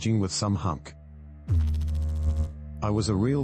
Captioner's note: electrical noise